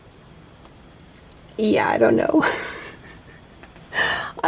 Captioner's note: giggles